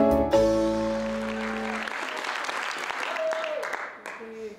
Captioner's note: audience applauds